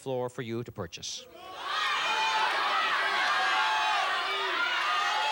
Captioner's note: cheers